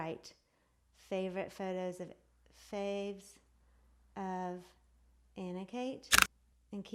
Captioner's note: clicks